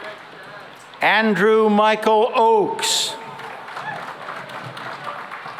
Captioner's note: applause